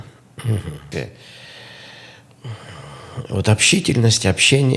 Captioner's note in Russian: откашливается; тяжело вздыхает; вздыхает